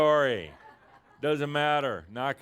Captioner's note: some chuckles